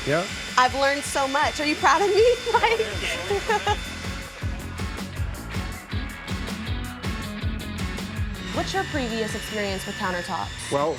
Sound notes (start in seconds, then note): 1.8 laughs; 5.1 bass music